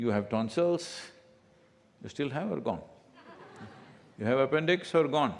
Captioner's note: few laugh